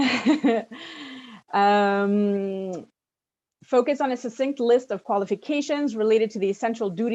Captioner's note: chuckles